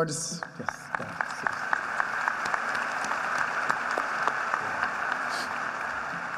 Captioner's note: applause